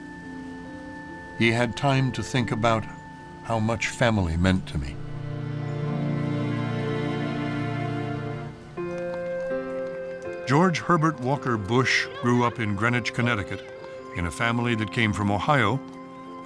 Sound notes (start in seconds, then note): none